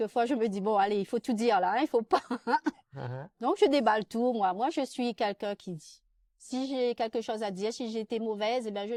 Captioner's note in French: rires